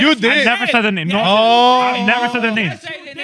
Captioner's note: speaking In Foreign Language